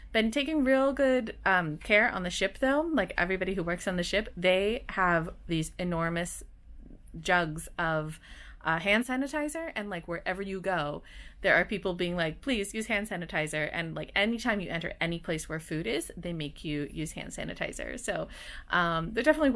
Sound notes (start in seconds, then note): none